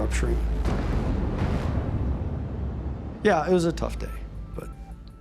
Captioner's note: explosions